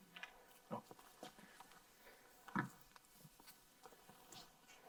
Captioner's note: softly shuffling